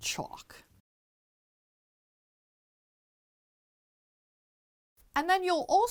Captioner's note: no Sound Present